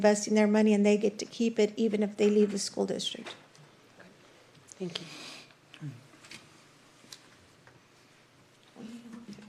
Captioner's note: snorts